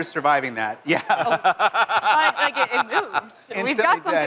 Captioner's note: laughter